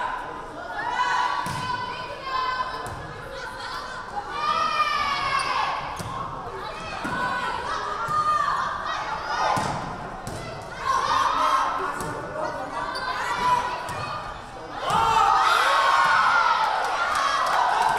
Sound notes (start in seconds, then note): 4.3 crowd yelling; 14.8 crowd cheering